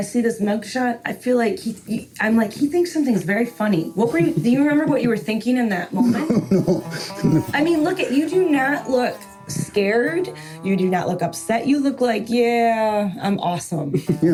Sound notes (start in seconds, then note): 5.9 chuckles